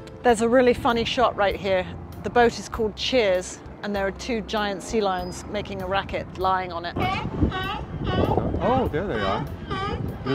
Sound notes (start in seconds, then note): 6.9 sea lions barking